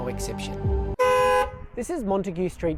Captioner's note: car honks